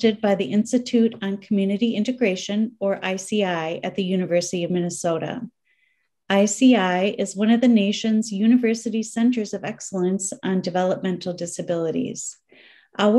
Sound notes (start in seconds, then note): none